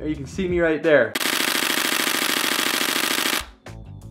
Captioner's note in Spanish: clics rápidos